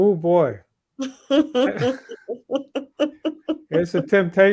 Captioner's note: laughs